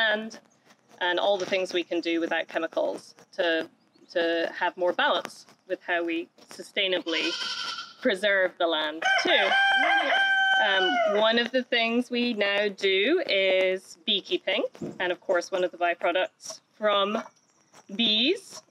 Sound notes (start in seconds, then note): 9.0 rooster crowing